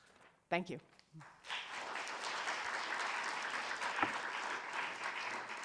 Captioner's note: audience applauding